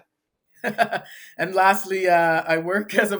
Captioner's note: laughs